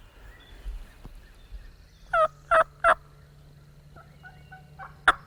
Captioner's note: turkeys gobbling